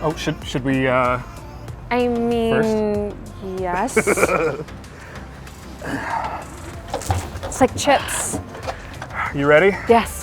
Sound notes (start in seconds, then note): 3.8 laughing